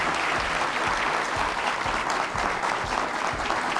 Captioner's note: applause